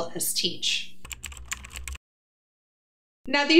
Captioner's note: keyboard clicking